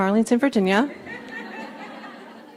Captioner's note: laughs